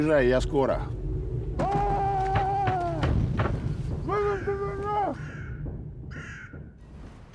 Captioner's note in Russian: голос из багажника